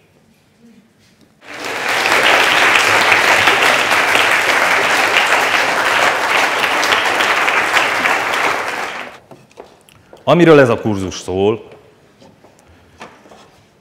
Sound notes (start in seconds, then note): 1.4 applause